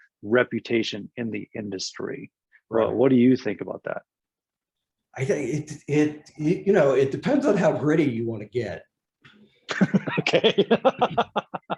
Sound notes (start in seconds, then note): 9.7 laughs